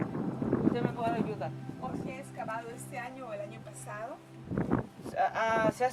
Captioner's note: speakers speaking in foreign language